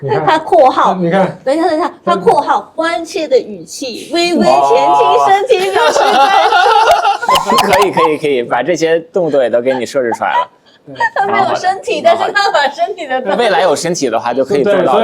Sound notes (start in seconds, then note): 2.7 using caring tone; 4.0 laughter